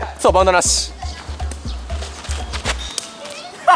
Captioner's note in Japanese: 羽を蹴る音